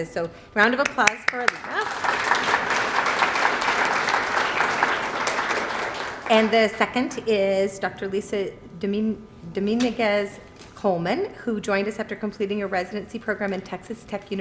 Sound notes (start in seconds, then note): 0.8 applause